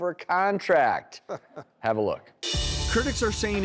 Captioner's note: chuckles